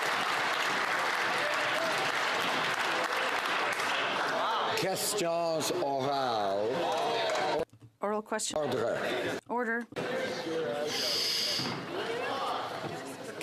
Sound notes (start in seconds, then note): 0.0 some Applause